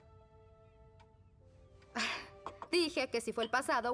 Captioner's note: chuckle